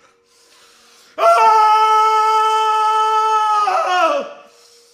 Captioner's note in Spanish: grita muy fuerte